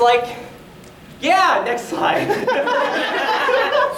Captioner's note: audience laughter